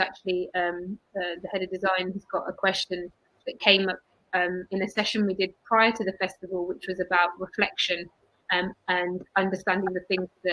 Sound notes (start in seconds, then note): 5.7 erm; 8.5 erm